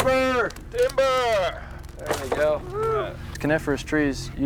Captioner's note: tree falling; airman shouting "timber"